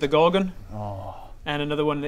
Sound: keen Bob noises

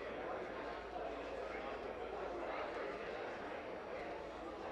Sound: none

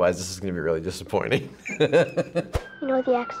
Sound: chuckles

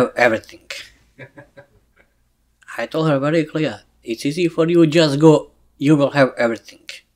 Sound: laughs

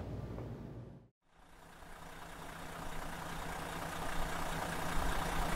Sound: engine roaring

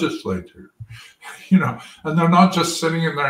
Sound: laugh

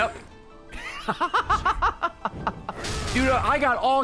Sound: laughs

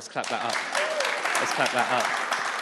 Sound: audience applauds

